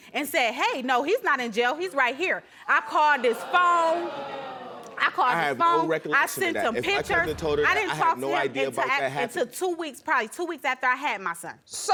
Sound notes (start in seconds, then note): 2.6 audience gasps